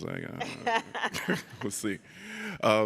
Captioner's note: laughs